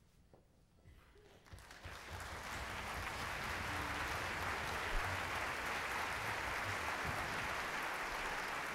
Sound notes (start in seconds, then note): 1.4 applause